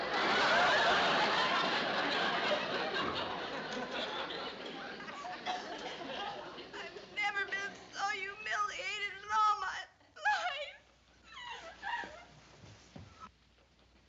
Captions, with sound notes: (CRYING) I've never been so humiliated in all my life.